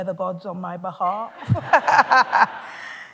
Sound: laughter

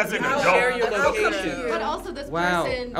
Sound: group converses

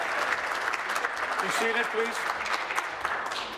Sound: applause

